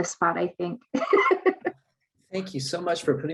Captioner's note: chuckles